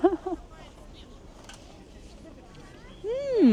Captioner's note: laughing